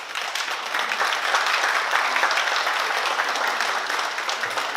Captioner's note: oklaski